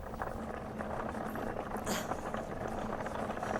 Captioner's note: trolley rumbles across ground